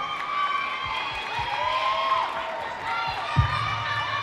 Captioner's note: audience cheering